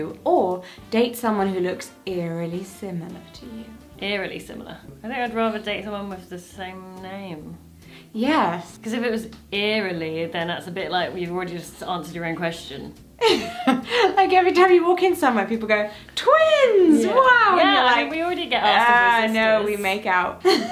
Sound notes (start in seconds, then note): 13.2 laughing